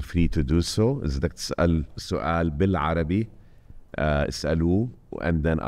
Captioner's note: speaking foreign language